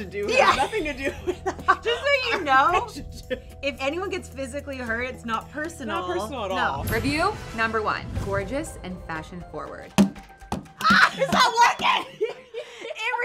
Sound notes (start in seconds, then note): 0.3 laughing; 10.5 tapping; 10.9 laughing